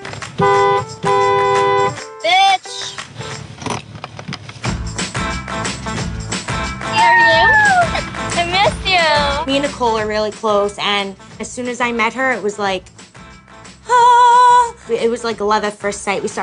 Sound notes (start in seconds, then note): 0.3 horn honks; 6.9 excited squeals; 13.2 high singing